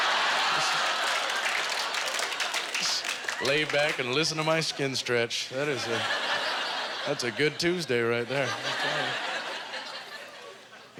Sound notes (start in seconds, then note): 0.0 audience laughter; 0.0 audience applause; 5.7 audience laughter